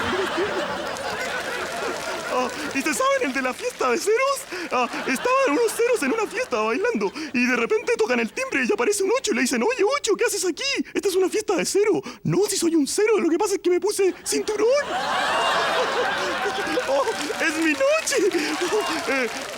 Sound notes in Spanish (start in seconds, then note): 0.2 Risas; 14.3 Mas risas y aplausos